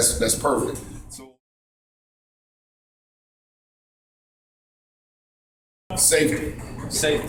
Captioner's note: silence